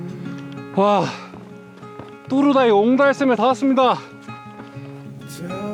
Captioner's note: deep breaths